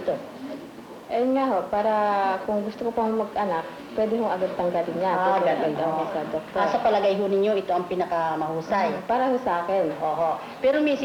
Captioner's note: non-English speech